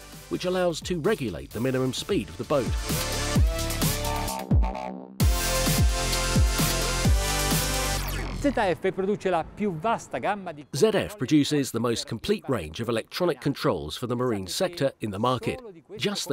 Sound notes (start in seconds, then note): 8.6 speaking in foreign language